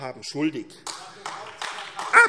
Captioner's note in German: Beifall AfD